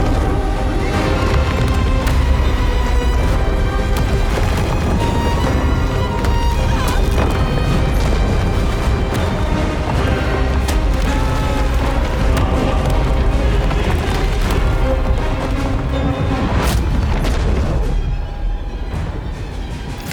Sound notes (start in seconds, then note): 0.1 ground rumbling; 1.4 dramatic music continues; 6.9 villager screams; 11.2 ground rumbling; 11.2 villager screams; 12.5 dramatic music continues; 17.1 ominous music